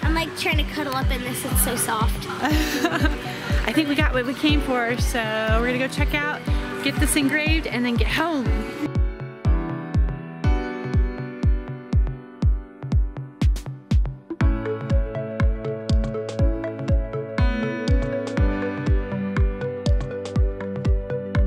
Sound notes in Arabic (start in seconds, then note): 2.4 يضحك; 9.1 الموسيقى متفائلا